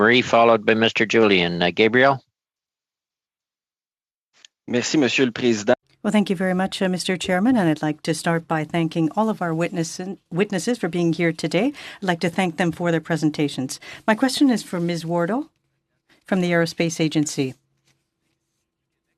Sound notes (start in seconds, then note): 9.7 speaking French